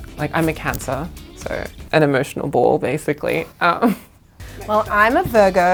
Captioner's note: laughs